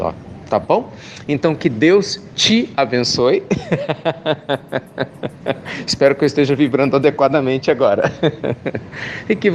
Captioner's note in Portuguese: risos